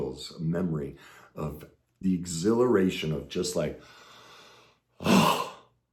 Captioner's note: sighs